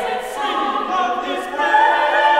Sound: lower Voices

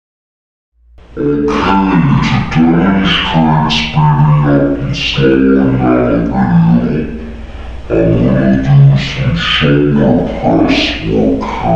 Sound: video slowed down and the pitch of the voice is lower

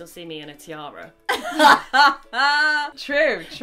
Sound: laughs

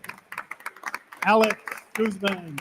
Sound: attendees continue applauding

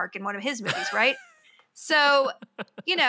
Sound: laughs

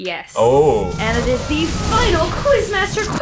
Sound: explosion noise

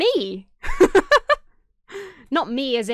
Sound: laughs

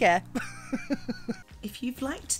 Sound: chuckling

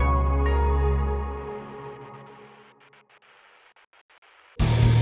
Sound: static

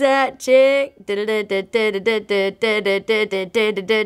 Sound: humming tune

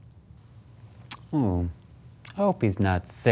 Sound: clicks mouth

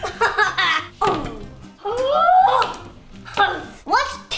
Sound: onion tumbles; laughs; yelling

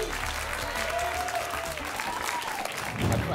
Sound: applause and cheering

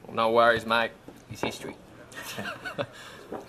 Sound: Australian accent

